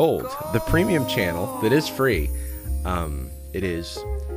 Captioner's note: disembodied voice